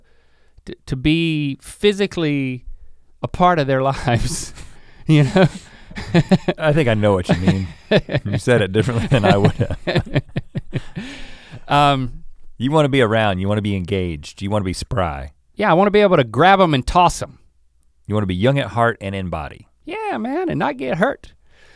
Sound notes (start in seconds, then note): 5.1 chuckles